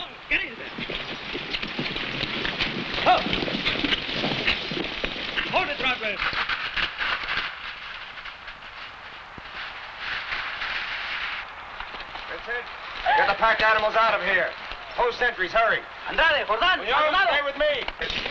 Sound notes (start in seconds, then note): 0.0 horse hooves pattering; 3.0 man shouts